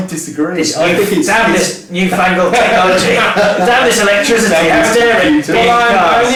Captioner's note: men talking and laughing over each other